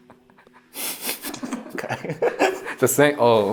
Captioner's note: both giggling